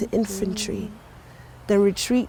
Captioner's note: soft humming